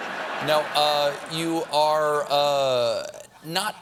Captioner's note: laughter